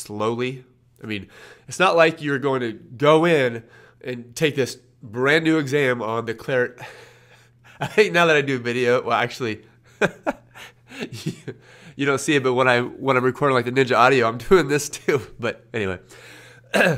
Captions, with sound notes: I mean, it's not like you're going to go in and take this brand new exam on the. Now that I do a video, well actually. (laughs) You don't see it, but when I'm, when I'm recording like the NINJA audio, I'm doing this too, but anyway.